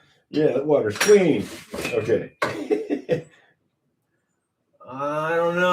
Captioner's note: laughter